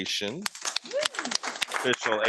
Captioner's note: audience applauding